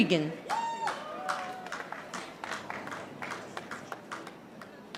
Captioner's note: audience applauding